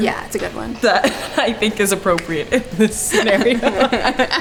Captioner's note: laughing